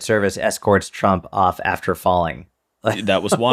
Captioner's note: chuckle